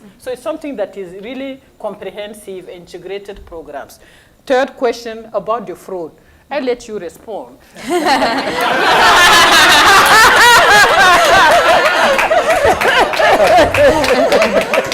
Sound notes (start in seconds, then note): 7.8 laughter; 11.1 applause